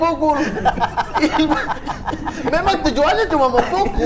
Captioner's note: laughing